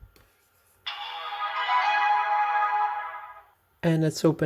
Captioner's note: epic sound effect